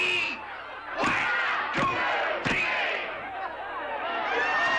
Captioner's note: crowd